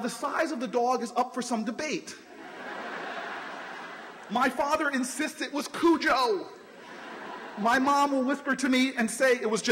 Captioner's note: laughter